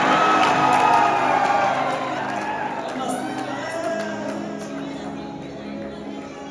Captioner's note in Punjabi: ਤਾੜੀਆਂ